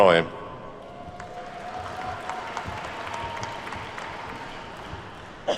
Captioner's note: attendees clapping